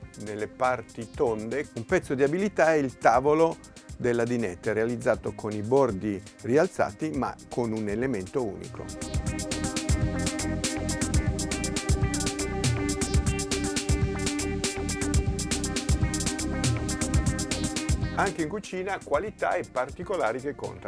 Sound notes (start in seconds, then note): 7.7 soft electronic music; 17.2 speaking foreign language